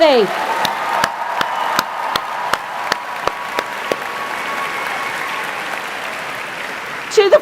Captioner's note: applause